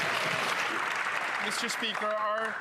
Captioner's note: some Applause